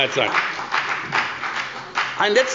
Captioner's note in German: Beifall bei der FDP